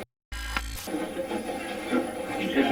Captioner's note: static playback transmitting; static fizzing